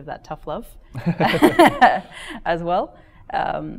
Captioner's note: chuckling